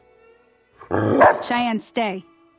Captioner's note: Cheyenne bark